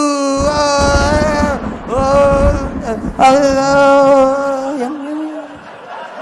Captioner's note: thunder sounds